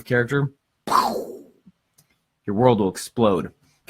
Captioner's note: makes exploding sound